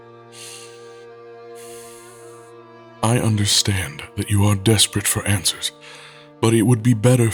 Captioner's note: sighing